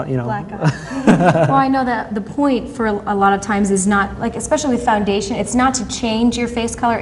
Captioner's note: laughter